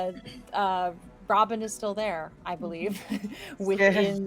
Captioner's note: laughs